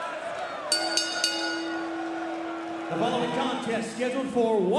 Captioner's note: bell ringing